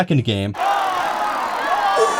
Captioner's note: crowd cheering